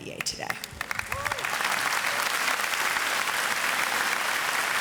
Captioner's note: audience applauds